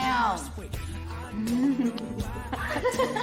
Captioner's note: laughing